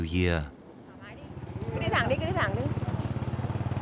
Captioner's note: speaking Vietnamese